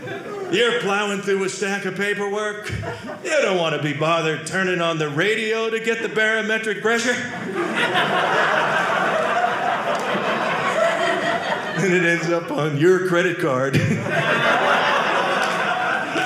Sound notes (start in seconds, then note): 7.2 audience laughing